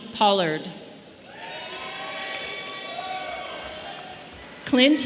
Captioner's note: audience cheering